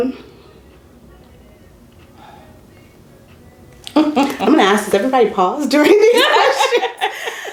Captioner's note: laughter